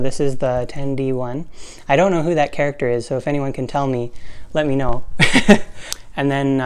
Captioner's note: laugh